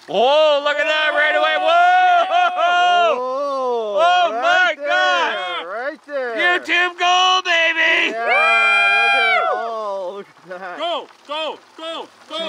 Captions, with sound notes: - Look at that right away. Oh my God! We're team gold baby. (cheering)